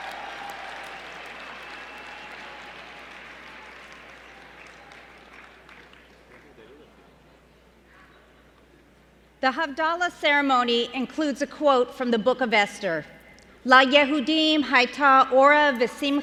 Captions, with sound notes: The Havdalah Ceremony includes a quote from the book of Esther. [SPEAKING HEBREW]